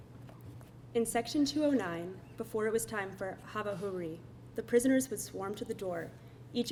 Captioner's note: foreign language spoken